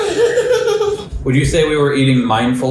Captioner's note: laughter